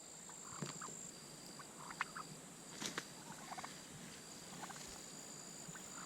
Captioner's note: turkey sounds